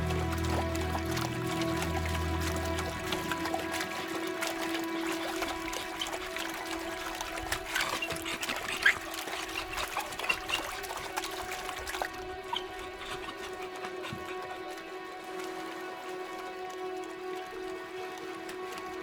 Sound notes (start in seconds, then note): 8.9 dog panting; 8.9 water splashing